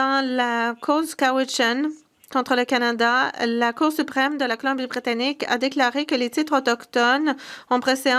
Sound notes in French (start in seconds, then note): 1.3 voix de l'interprète